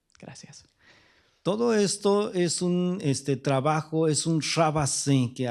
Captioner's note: speaking spanish